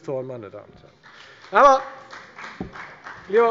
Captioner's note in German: Beifall bei der FDP